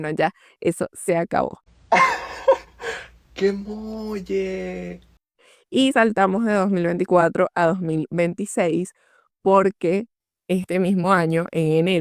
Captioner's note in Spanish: risas